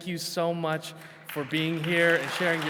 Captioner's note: attendees clapping